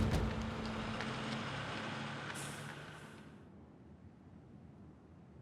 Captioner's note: truck motor running